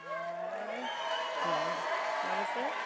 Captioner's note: attendees applauding and cheering